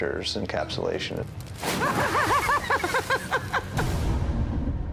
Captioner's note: laughing maniacally